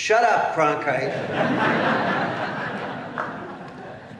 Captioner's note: laughter